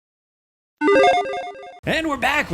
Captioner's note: graphic blips and trills